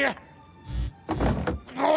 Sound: electricity buzzing

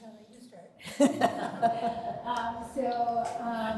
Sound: chuckling

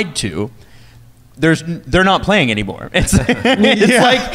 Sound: laughing

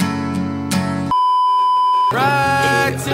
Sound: beeeeeep

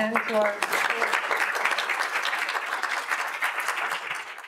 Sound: audience applauds

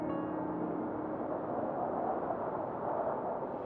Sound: air whooshing

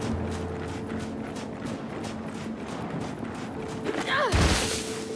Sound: footsteps

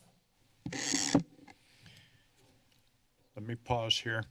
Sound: mic noise

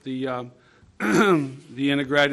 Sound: clearing throat

